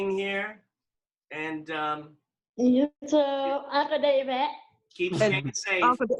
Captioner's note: laughter